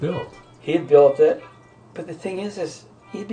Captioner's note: voiceover